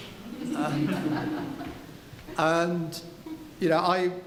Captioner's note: laughing